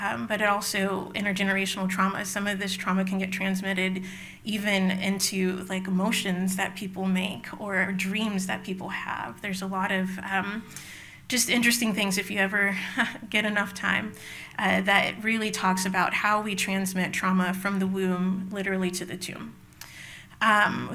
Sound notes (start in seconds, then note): 13.0 laughs